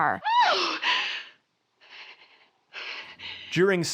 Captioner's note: Miss Giddens shrieks